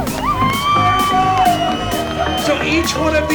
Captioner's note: crowd cheering